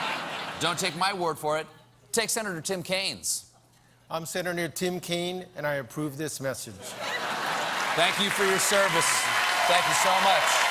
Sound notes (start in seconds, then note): 6.8 laughter; 7.4 applause